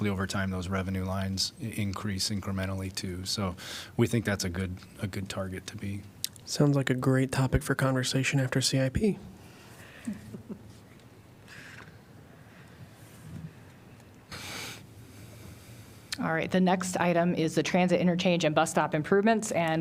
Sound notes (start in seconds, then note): 10.0 laughter